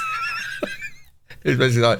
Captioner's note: laughing